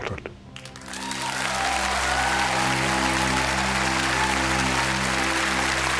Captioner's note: audience cheers and applauds